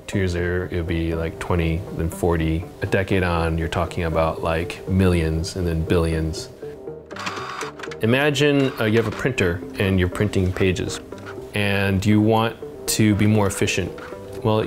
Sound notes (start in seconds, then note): 7.3 wheels whirring